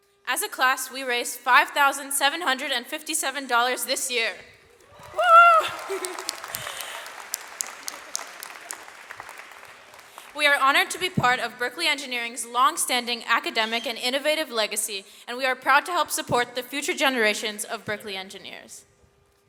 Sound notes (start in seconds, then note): 4.8 audience cheers; 8.7 laughs